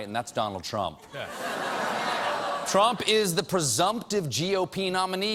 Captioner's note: laughter